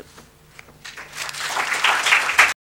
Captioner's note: applause